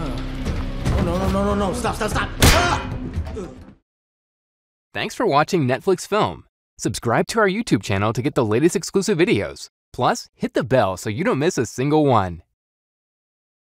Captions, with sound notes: Oh, no, no, no. Stop, stop, stop! -[loud clang] -[moans]